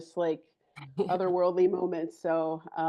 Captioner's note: chuckles